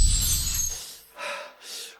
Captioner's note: gasp